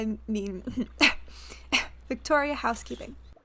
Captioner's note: clearing throat